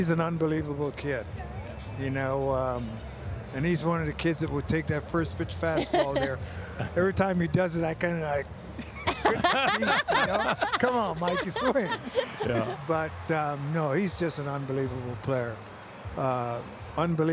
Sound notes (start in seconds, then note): 8.8 everyone laughing